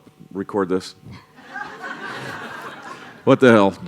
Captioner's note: laughter